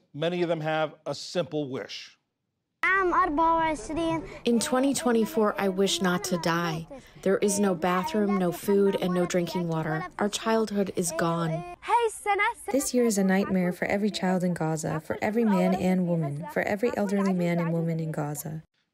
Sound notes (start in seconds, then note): 5.4 through translator; 13.1 through translator